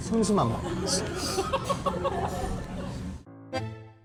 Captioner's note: inhales